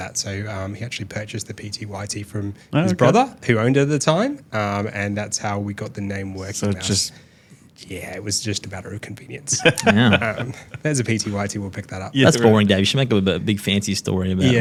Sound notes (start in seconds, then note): 9.5 laughing